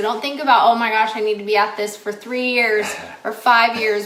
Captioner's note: laughs